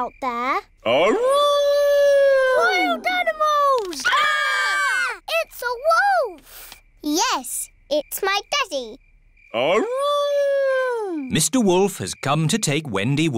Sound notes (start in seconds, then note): 1.0 howling; 3.6 all screaming; 8.8 howling